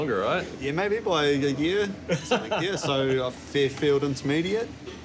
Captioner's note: laughs